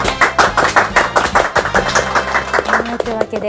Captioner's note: applause